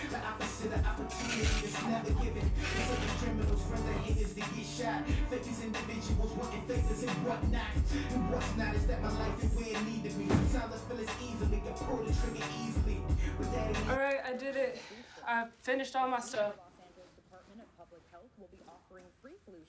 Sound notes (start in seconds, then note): 1.1 packing tape gun screeching